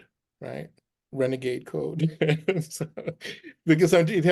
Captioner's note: laughs